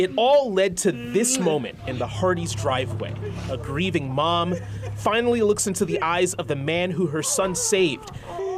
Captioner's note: laughter